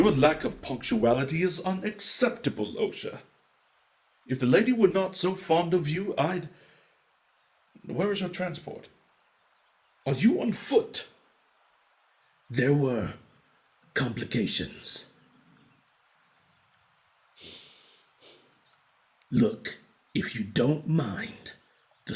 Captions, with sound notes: Your lack of punctuality is unacceptable Osha. If the lady were not so fond of you I'd... Where is your transport? Are you on foot? There were, complications. [sniff] Look, if you don't mind,